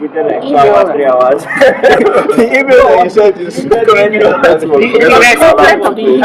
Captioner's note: laughter